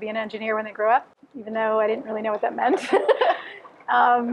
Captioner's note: laughter